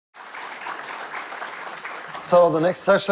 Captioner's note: audience clapping